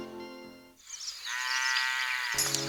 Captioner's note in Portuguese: mugido